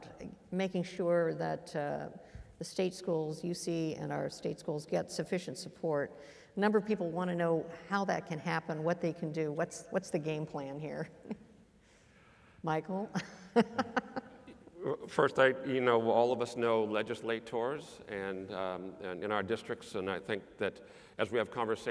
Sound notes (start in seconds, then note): 13.2 laugh